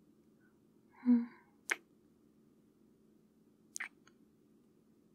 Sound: kiss

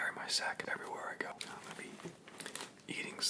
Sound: quietly

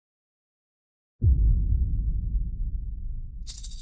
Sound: distant boom; maracas shaking

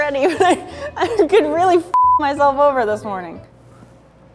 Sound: beeping

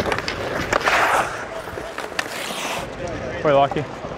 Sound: sliding on skates

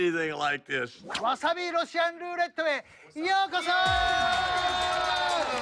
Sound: speaking Japanese

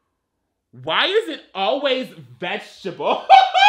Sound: laughs

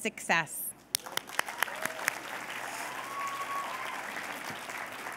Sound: cheers and applause

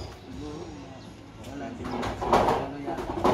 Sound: noisy background

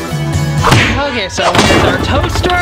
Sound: whap

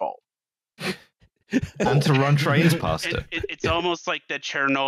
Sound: laughter

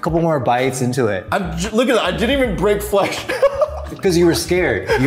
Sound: chuckles

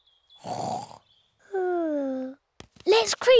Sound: snores

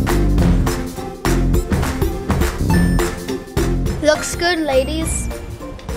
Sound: none

